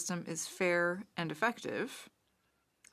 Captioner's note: speaking French